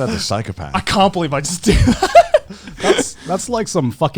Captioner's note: laughs